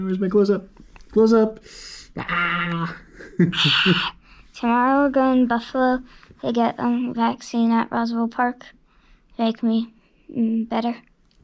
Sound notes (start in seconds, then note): 2.7 shouts playfully; 3.8 roars